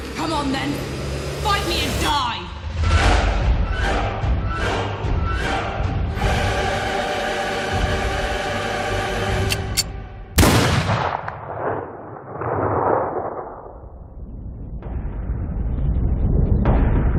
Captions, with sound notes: Come on then! Fight me and die! [gunshot echoes]